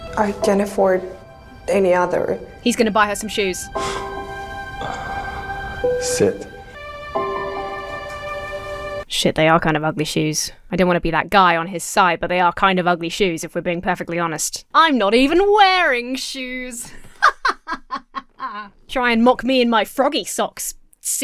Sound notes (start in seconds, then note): 4.6 boss sighs; 7.0 uplifting music; 17.0 Emma laughs haughtily